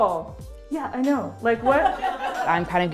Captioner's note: laughter